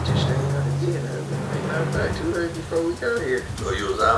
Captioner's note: recording plays